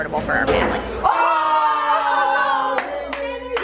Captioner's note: all exclaim